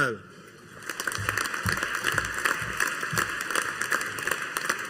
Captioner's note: audience applauding